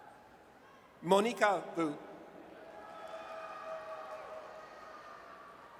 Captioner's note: audience cheers